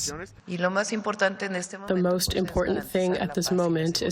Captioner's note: through translator